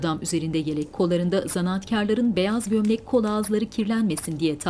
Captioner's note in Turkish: Ateşin çıtırtısı